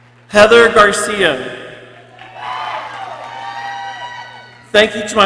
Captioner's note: people cheering